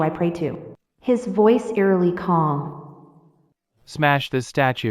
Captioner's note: his voice eerily calm